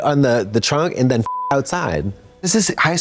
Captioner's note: beep